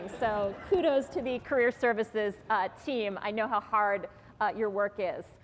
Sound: laughter

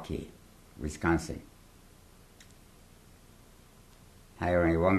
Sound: pauses for 3 seconds

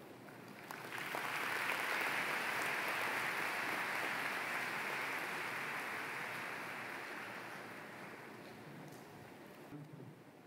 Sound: applause

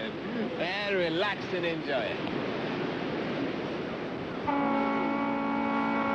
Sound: boat horn blaring

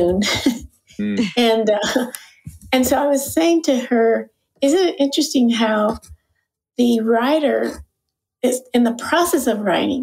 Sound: chuckle

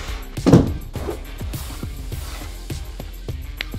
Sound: box thumps

